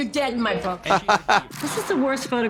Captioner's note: Trixie chortles